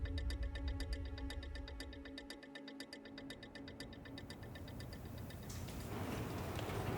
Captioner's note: ticking